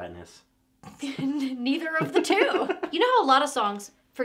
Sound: both laughing

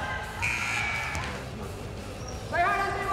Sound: buzzer sounds

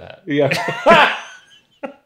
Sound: laughs

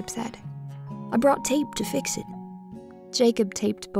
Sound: voiceover

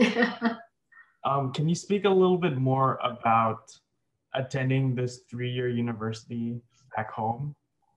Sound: laughs

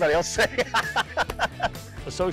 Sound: laughter

